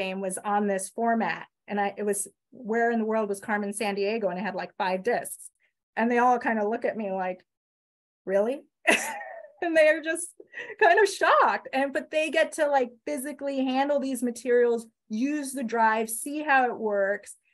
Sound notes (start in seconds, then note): 8.9 laughs